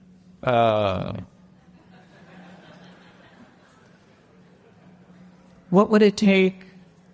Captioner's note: audience laughter